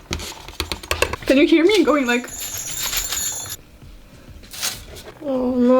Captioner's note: rings the chest bells